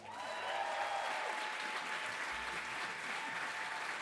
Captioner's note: audience applauding